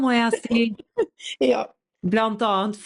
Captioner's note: laughs